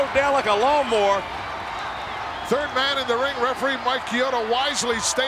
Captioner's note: applause